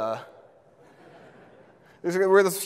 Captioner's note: audience laughs